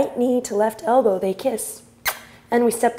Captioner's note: mimics kissing